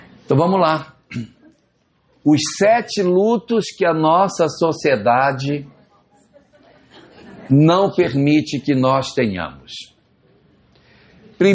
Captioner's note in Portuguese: limpando a garganta